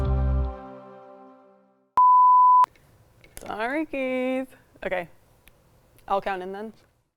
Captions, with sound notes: (bright upbeat music fades) (production tone beeping) Sorry, Keith. Okay, I'll count in then.